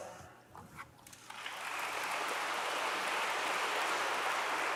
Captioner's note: audience applauds